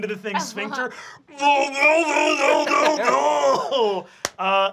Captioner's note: monstrous yelling